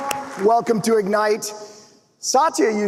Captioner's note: applause